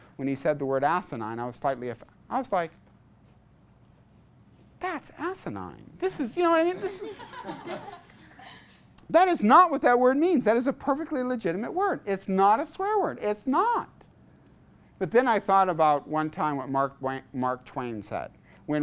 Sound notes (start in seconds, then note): 6.8 class laughs